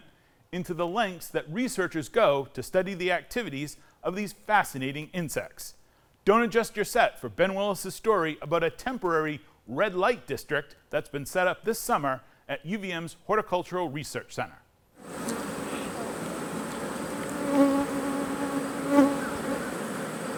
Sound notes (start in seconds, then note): 15.0 bees buzzing